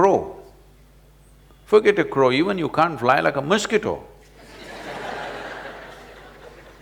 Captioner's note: laughter